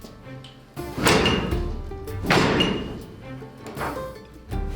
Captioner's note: loom clanking; bright music continues